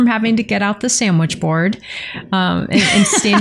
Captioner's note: laughter